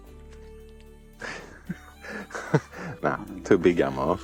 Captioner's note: laughs